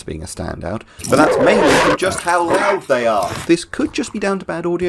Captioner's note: shouting over barking